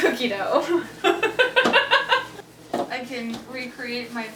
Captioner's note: laughs